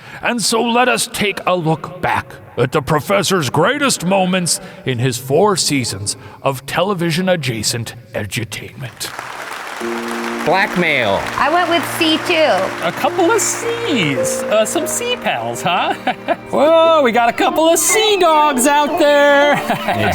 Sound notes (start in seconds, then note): 9.0 crowd clapping; 15.8 The Professor chuckling